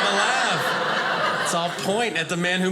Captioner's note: audience laughing